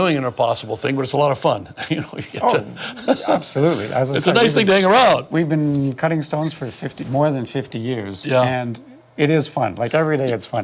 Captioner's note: laughs